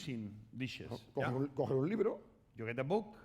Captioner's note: speaking spanish